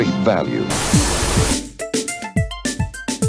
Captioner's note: static; tempo music